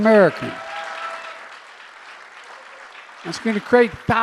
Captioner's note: applause